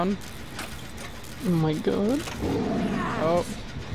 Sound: Piggy growls

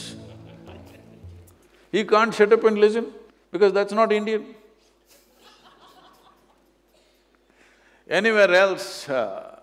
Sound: few Laugh; few Laugh

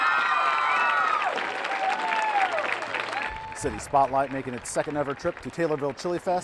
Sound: applause

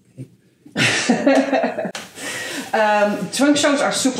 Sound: laughs

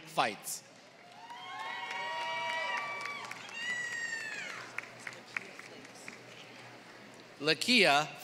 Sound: applause

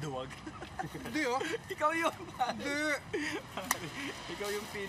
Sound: laughs

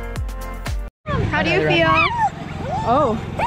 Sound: dog whimpering

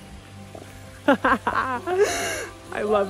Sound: laughter

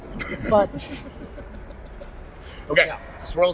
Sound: laughter

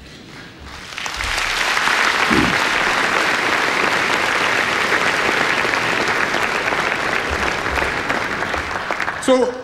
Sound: applause

